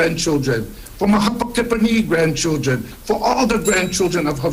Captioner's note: speaks Hawaiian